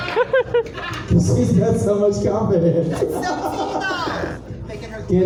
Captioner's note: laughs